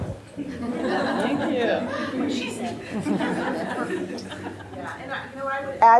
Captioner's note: members of the audience laugh and murmur